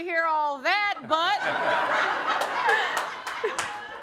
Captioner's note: audience laughing